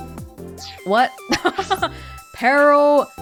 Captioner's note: chuckles